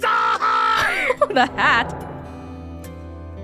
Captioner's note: chuckles